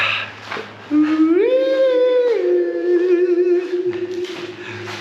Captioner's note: Taran making eerie noises